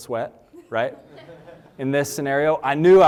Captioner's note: laughter